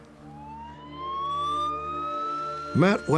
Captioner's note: siren